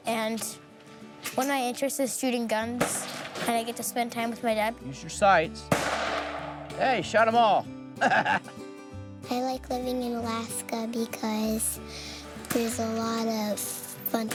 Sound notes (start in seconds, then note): 2.8 gunshot blasting; 5.7 gunshot blasting; 8.0 laughing